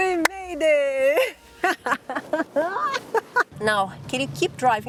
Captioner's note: laughs